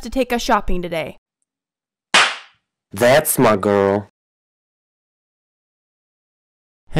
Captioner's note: slap